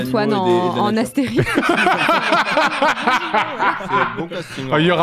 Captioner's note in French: rires